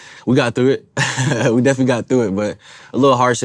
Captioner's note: laughs